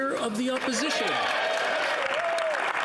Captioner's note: speaking French